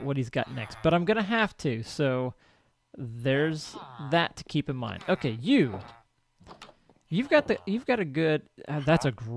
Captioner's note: chattering continues